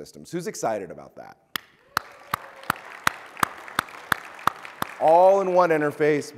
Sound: present clapping; audience clapping

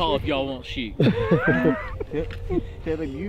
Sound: laughing

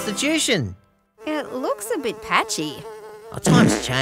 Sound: buzzing; fart noise

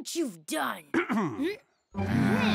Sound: clearing throat; groaning

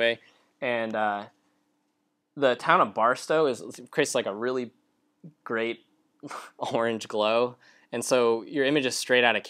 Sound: laughs

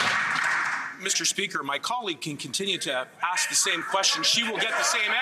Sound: some Applause

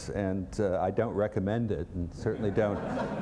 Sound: laughter

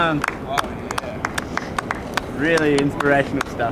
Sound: clapping

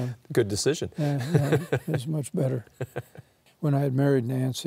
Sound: laughing

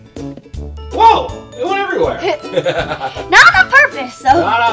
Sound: laughs

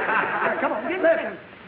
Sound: audience laughing

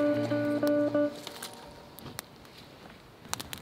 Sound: crackling flames

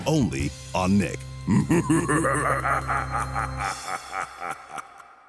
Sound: laughing evilly

